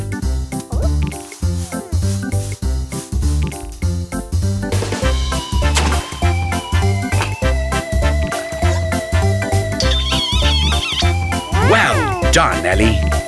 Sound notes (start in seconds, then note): 9.8 smooch